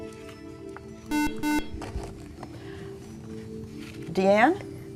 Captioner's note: beeping